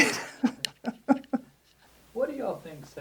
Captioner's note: laughs